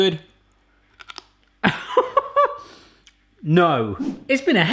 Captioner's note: laughing